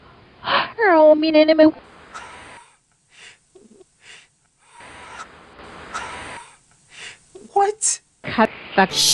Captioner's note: gasp